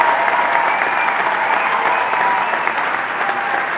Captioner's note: cheering and Applause